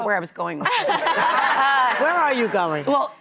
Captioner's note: laughing